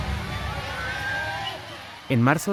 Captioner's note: people screaming